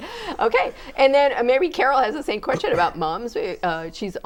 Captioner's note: laughing